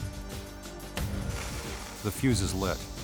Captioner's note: dramatic music continues; fuse sizzles